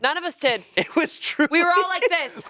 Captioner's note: laughs